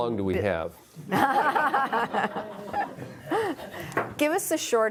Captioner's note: laughing